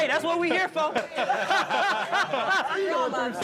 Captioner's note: group laughing